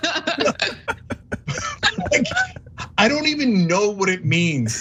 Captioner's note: laugh